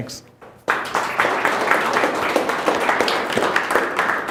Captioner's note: audience applauds